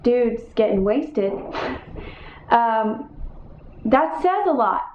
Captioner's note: scoffing